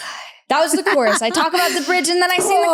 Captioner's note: laughs